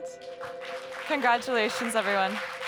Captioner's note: audience members applauding